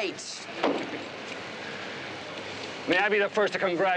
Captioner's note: chuckles